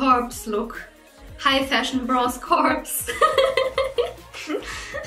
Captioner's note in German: lacht